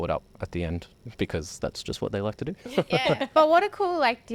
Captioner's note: laughing